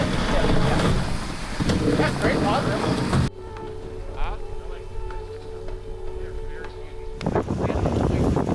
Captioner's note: winch whirring